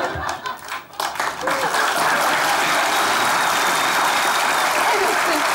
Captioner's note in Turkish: Alkış sesleri